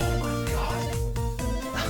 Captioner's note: quietly